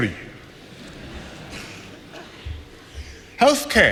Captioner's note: laughter